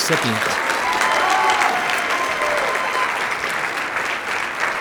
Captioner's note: cheers, applause